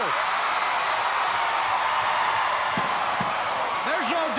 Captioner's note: crowd cheering